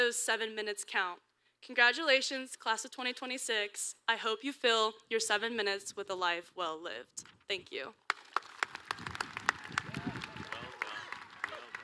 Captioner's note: applause